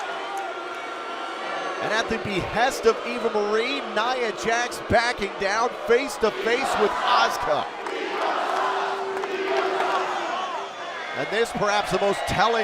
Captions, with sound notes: [CHEERS & BOOS] AND AT THE BEHEST OF EVA MARIE, NIA JAX BACKING DOWN, FACE TO FACE WITH ASUKA. [FANS CHANTING] AND THIS PERHAPS THE MOST